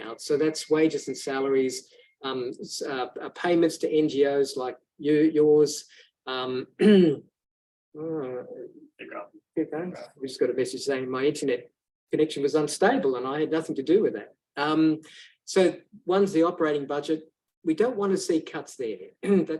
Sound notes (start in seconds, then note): 6.8 coughs